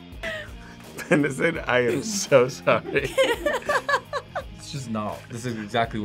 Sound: group laughs

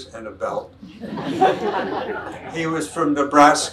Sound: audience laughs

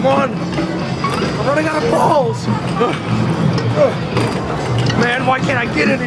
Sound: grunting

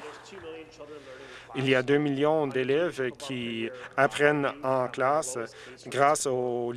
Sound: some Applause

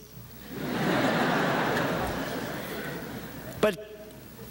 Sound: audience chuckles

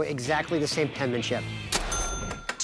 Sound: ding

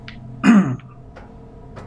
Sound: coughs

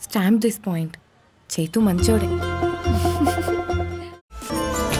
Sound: both giggle

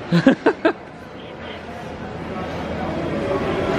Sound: laughs

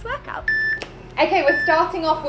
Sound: timer beeping

